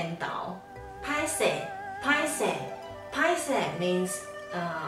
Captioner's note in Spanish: en taiwanes